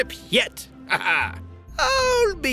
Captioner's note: laughs